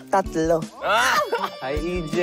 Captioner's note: giggles